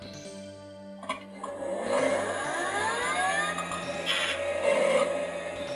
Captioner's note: weird static machine noise